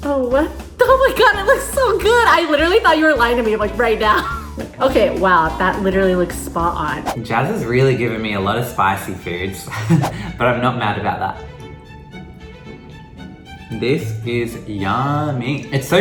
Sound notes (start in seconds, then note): 9.7 chuckles